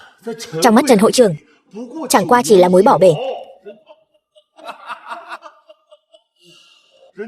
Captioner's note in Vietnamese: Tiếng cười